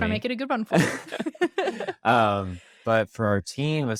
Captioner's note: laughs